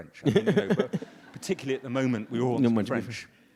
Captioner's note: audience laughs